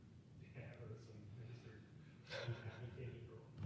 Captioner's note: laughing